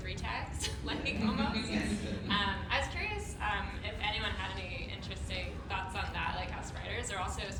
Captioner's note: laughter